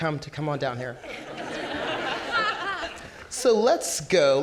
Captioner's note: audience laughing